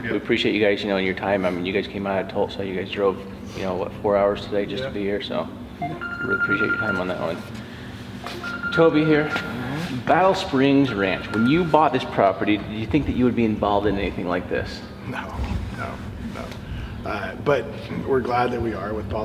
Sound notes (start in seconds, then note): 5.8 phone ringing